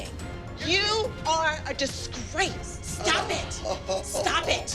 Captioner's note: chuckles